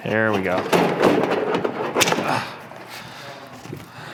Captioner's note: metal clanging